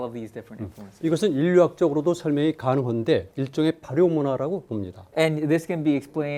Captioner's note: speaking in Korean